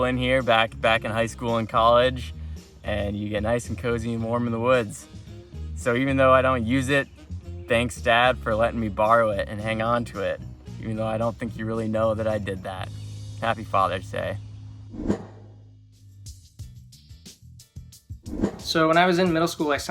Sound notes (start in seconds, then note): 14.9 air whooshing; 16.2 dramatic pop music